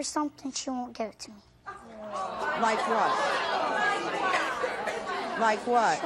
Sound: audience groaning

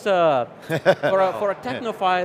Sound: chuckles

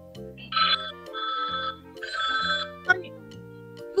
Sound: alarm going off

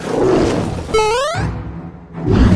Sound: Mario jump

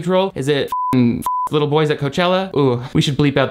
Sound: beep

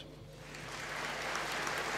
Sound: applause

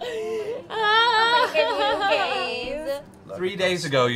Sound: laughter

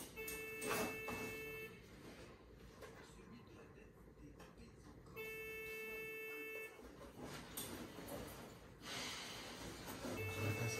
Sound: phone calling

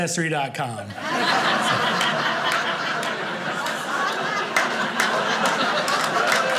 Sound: audience laughing; audience clapping

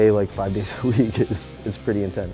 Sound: laughs

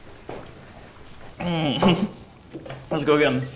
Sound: groans gleefully

